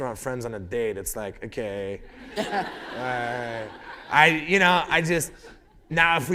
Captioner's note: laughter